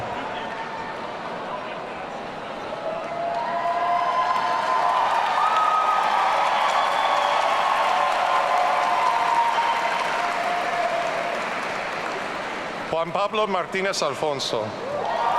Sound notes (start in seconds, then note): 3.8 audience cheering; 14.8 audience cheering